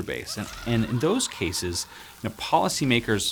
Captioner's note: ominous laughing